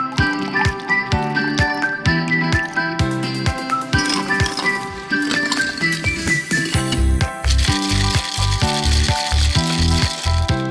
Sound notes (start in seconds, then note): 4.1 ice rattles; 7.7 shaker rattles